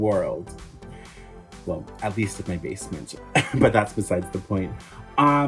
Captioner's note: laugh